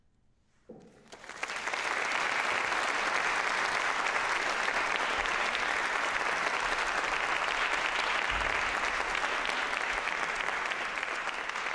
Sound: applause

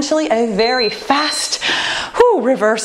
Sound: timer beeping

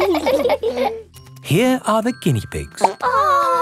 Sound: laughing; plop

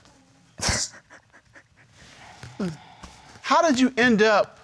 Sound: crying

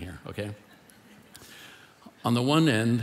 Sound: congregation laughing

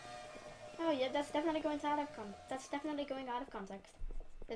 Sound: stuttering

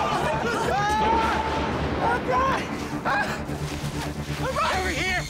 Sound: screaming; thunder

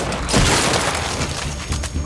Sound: gunshots

